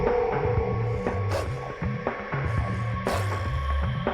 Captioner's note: barking, growling